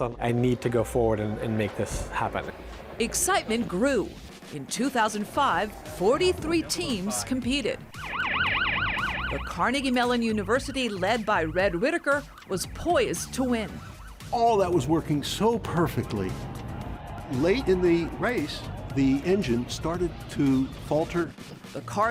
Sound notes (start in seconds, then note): 7.4 siren wailing